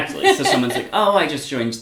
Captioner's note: laughs